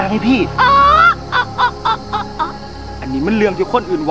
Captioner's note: Laughing